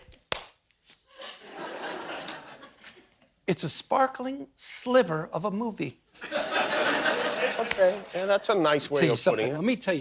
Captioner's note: laughter